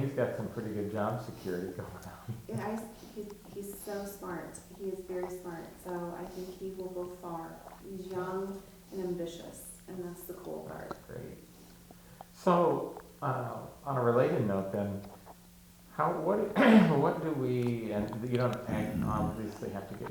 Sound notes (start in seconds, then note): 1.7 chuckling